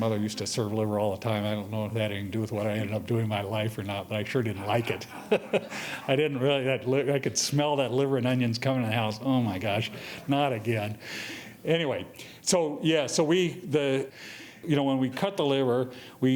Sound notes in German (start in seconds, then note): 4.5 laughing